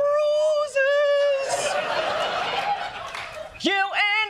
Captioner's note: laughter